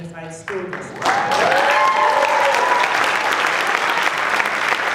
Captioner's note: applause